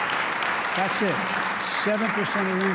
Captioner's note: applause